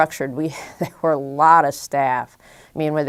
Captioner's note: chuckle